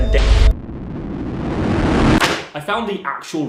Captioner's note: static buzzing